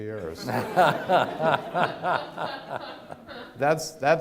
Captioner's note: audience laughs